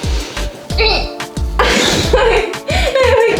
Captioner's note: laughing